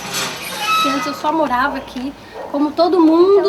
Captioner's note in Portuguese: none